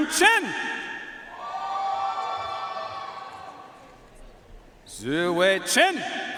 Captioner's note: audience cheering and applauding